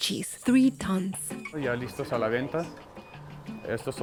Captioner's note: speaking Spanish